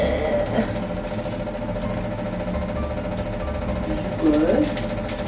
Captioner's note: the extractor fan has been making an annoying noise